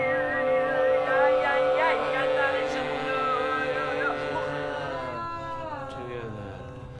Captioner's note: 吟诵，模糊